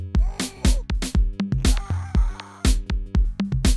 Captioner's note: yelling